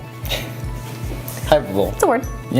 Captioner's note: laughs